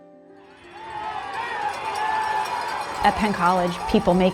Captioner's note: cheering